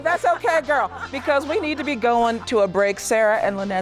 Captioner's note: laughs